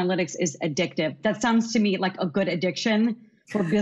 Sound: all subtly laugh

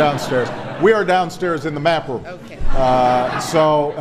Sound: laughter

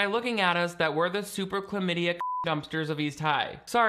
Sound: beep

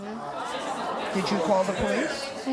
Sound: audience groans

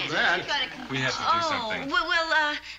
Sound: none

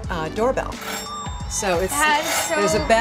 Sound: doorbell rings

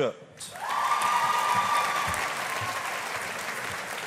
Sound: audience applauding

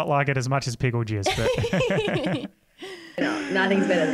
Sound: laugh

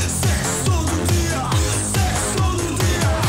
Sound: none

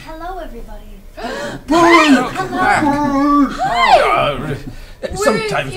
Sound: gasp

